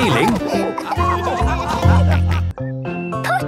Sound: all laughing

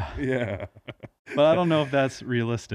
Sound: laughs

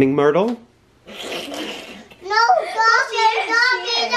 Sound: laughs

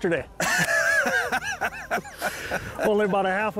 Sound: both laugh

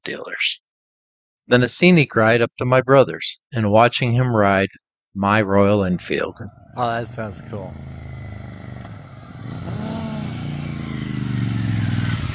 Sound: motorcycle sound

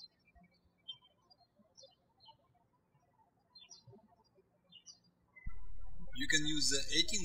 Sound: birds chirping

